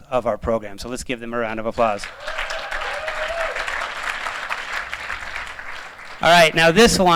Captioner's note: applause